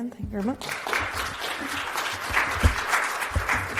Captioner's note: audience clapping